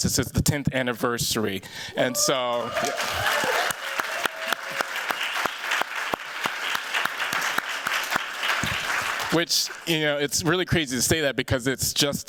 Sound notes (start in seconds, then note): 2.0 cheers, applause